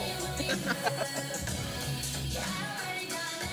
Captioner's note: laughing